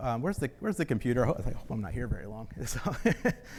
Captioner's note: laughs